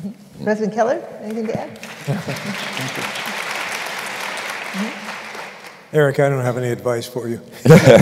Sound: applause; laughter

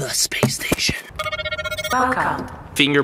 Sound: scanners beeping

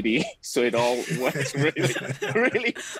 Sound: everyone laughing

